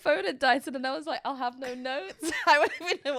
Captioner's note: both laughing